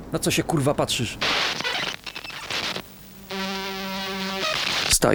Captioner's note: radio interference